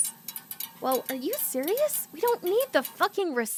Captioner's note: sound of rattling pipes